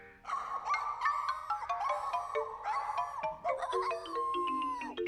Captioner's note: Scruffty Howling and Yelping